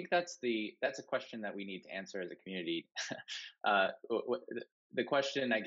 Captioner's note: laughing